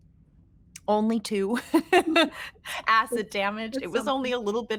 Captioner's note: laughing